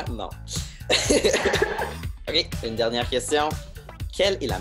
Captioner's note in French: rires